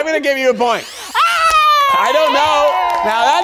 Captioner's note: cheers